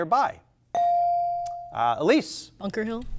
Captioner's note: buzzer chimes